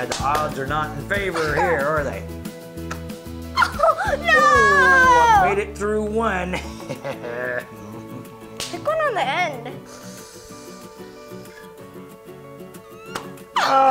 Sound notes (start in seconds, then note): 6.5 laughs; 10.4 upbeat music